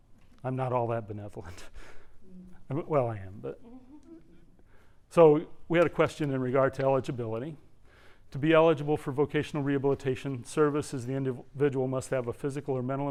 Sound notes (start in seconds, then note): 3.5 laugh